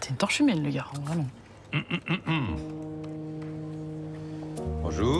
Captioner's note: clears throat